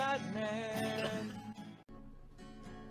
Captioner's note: singing; wheezes